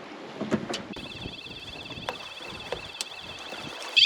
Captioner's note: ship alarm sounds